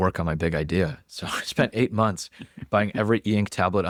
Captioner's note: laughs